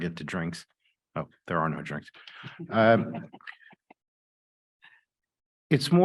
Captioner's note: chuckles